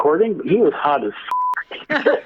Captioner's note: beep